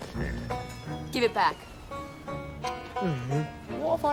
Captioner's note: groans